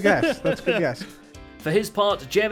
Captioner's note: laughs; chuckles